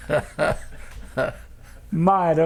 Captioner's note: laughter